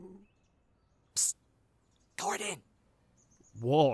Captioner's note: whispering